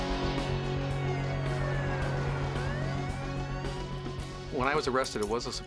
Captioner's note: police Sirens